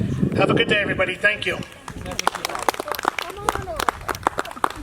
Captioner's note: applause